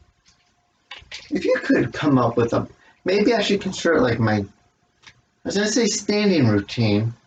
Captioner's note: clacking of chest expander ropes